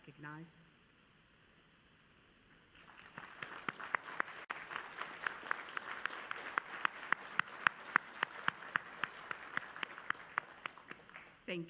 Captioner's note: applause